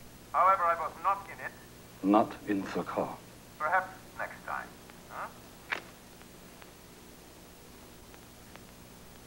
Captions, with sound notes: HOWEVER, I WASN'T IN IT. NOT IN IT? PERHAPS NEXT TIME. [CLICK]